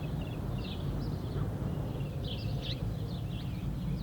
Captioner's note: birds chirp